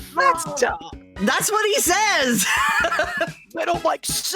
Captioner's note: laughing